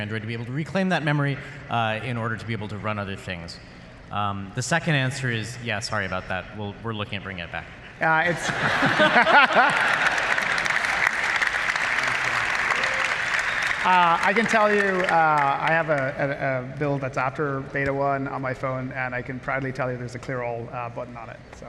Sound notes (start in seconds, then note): 8.2 laughter